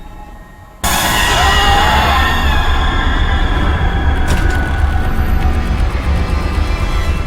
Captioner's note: dramatic music; screaming